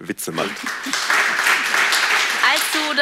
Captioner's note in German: Applaus